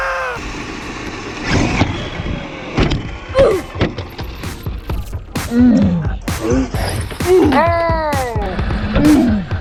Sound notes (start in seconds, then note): 1.6 car revving; 1.6 car slams down; 5.2 upbeat techno music